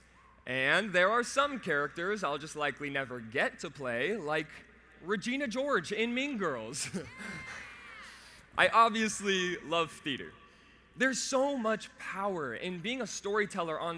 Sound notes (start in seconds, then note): 6.9 laughs